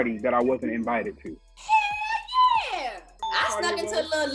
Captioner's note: bell chiming